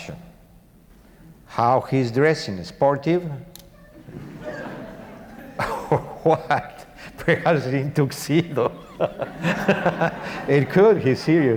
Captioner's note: audience laughs